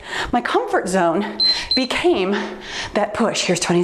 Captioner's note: timer beeps